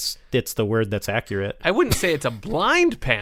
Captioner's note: laughter